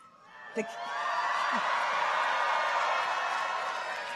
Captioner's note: audience cheers